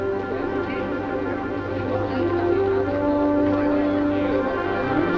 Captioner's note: chatter